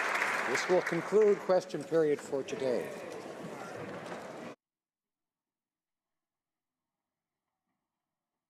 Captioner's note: applause